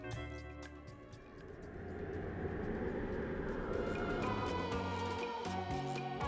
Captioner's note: wind noises